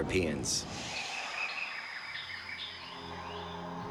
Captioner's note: birds chirping